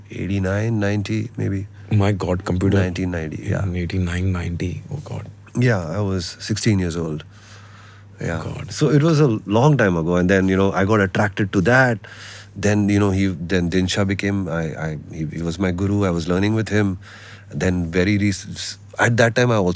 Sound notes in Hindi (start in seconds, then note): none